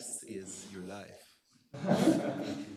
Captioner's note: laughter